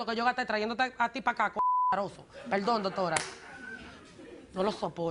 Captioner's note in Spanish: Bip